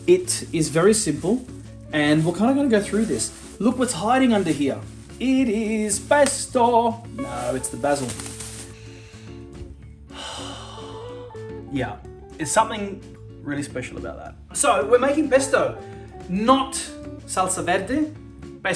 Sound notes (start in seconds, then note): 8.6 exhales; 8.7 inhales